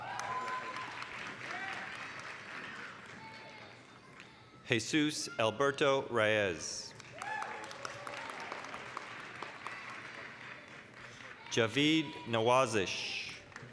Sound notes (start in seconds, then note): 0.0 applause, cheering; 6.9 applause, cheering